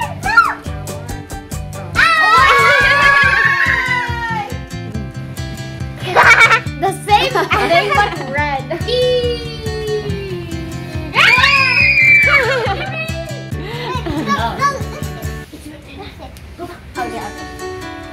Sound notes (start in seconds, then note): 1.8 cheerful yelling